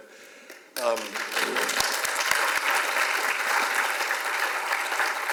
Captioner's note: audience applause